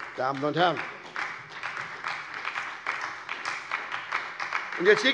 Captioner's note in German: Beifall bei der SPD